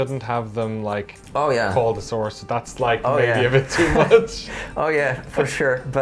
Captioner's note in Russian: смеется